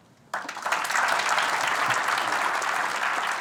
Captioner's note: applause